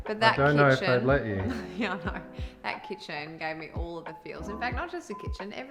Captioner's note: laughs